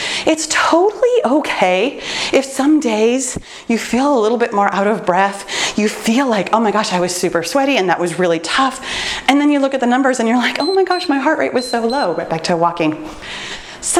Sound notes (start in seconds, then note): 10.5 timer beeps